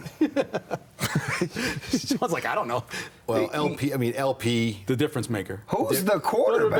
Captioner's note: laughter